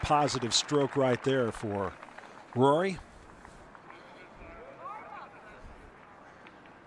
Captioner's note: cheers and applause